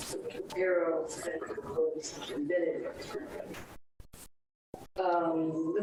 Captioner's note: speaks distorted